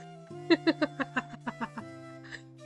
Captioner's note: laughs